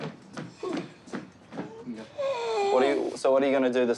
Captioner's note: wheezes